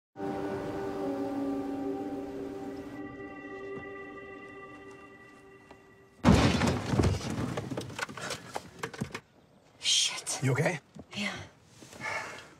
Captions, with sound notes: [ Thud ] Shit. You okay? Yeah.